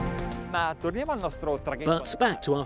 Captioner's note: speaking foreign language